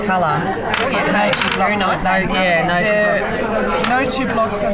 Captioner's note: participant chatter